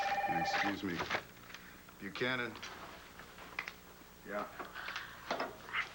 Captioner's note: phone rings